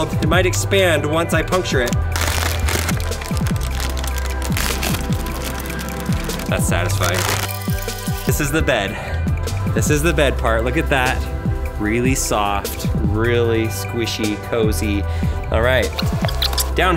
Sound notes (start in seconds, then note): 3.5 paper ruffles